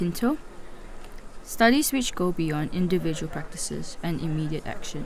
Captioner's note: voice-over